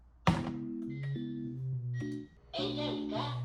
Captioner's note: thump